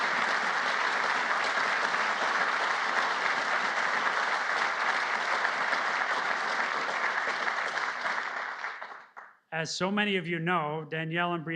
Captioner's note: applause